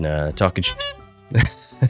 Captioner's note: horn honks